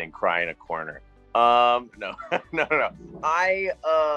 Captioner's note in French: rire